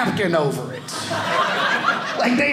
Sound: audience laughing

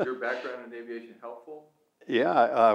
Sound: laughs

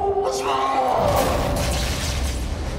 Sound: loud thud

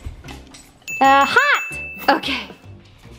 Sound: bell dings

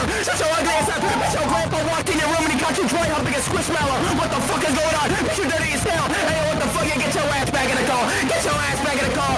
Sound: random screaming

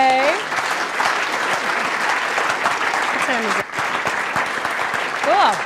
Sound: applause

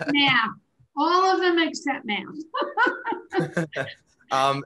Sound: chuckles

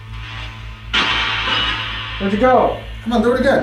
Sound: radio noise reverberating

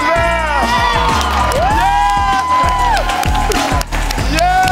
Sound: cheers

